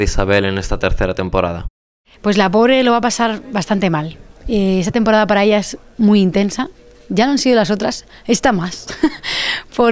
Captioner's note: laughs